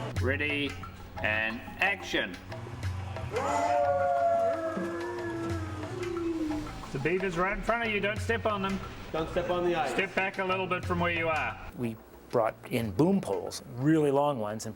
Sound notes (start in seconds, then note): 3.3 wolves howling